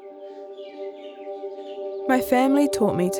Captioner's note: birds chirping